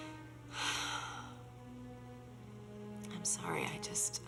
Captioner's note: sighs